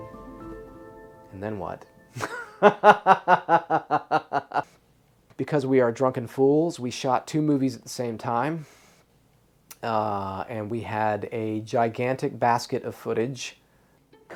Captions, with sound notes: And then what? [laughs] Because we are drunken fools, we shot two movies at the same time and we had a gigantic basket of footage.